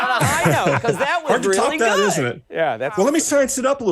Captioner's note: laughter